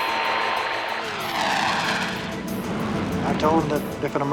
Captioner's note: aircraft engine roaring